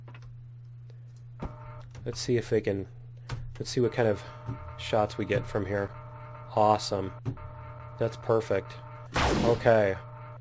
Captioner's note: turret turning; turret firing